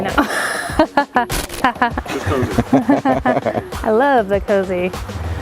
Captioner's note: laughs